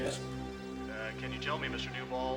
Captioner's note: on phone